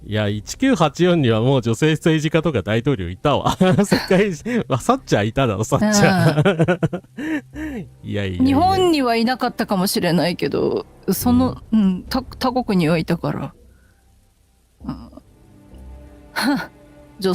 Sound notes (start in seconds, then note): 6.0 laughter